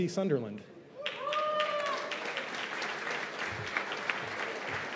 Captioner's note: cheers and applause